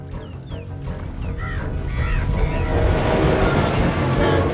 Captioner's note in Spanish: cuervos graznando; trío femenino cantando